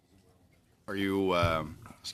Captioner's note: speaking French